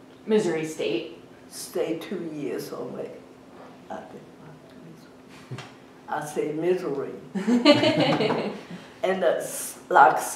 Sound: laughs

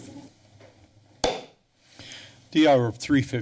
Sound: taps gavel

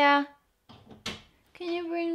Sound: door creaks

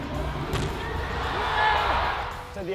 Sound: cheering

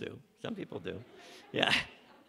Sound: laughter from audience

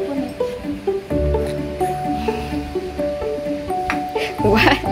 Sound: laughing

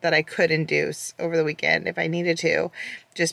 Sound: none

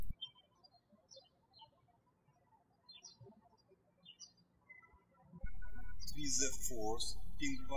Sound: birds chirping

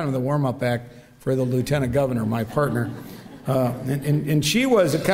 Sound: crowd laughter

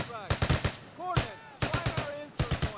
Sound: rapid, continuous gunfire

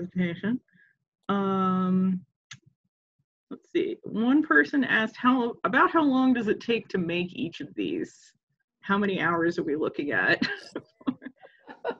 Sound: laughs

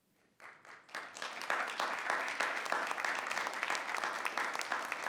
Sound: audience applauding

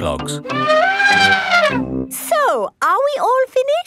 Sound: trumpeting

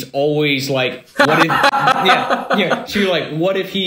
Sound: laughing

